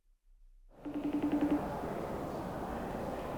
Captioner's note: phone ringing